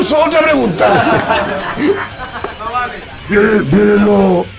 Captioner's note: laughs